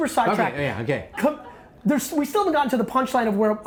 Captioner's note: laughing